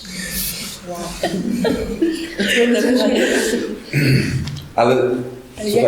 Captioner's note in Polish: Śmiech